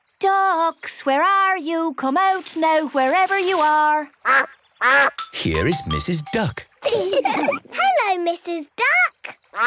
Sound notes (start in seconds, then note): 4.3 quacks; 6.8 all laugh; 9.4 quacks